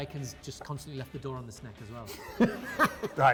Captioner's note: laughing